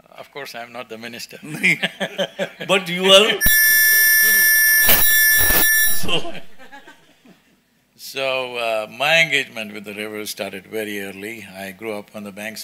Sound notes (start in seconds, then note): 1.4 laughter; 3.4 audio disturbance